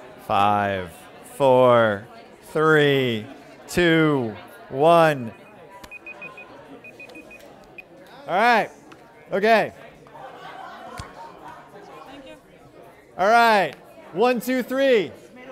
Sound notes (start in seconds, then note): 5.9 alarm rings